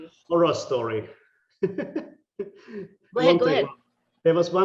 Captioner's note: laughing